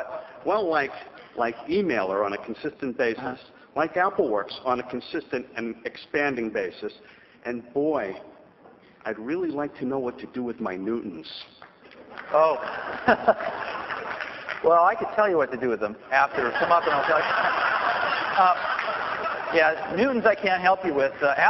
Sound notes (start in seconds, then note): 12.1 laughter and clapping; 16.0 laughter